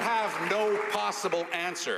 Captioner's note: some Applause